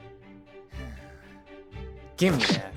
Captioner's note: sigh.mp3